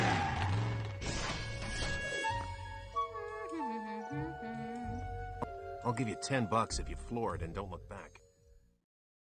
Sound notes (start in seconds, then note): 2.3 humming